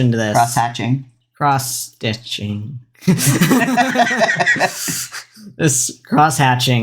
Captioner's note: laugh